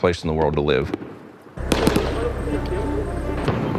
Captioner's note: lighthearted music; gunshots